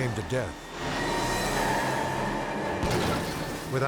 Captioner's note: tires squealing; tires explode